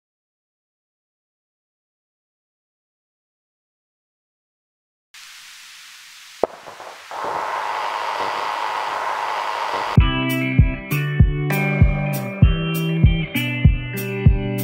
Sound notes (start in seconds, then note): 5.1 old Projector Startup; 9.3 upbeat Acoustic Music